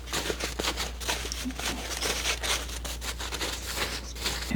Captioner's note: scratching